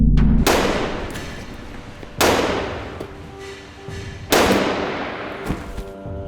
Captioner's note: gunshots